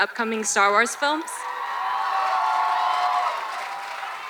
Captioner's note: audience cheers